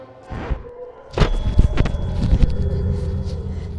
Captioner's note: distant scream